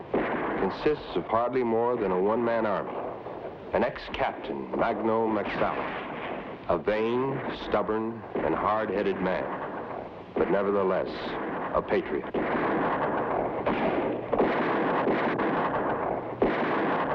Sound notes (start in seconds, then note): 13.4 gunshots blast